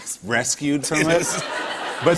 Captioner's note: laughter